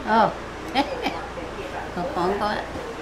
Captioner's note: speaking Chinese; grandma laughing; grandma speaking Chinese